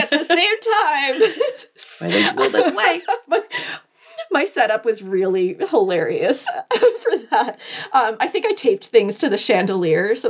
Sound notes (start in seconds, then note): 2.0 speaking softly